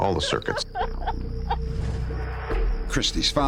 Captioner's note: sobbing